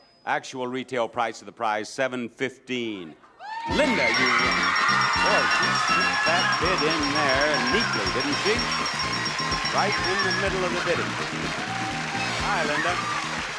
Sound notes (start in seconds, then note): 3.7 bell chiming; 3.7 audience applauding